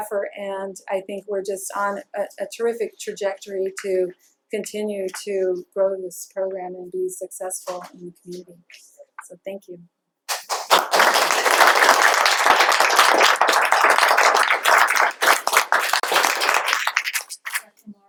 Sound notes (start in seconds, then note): 10.3 applause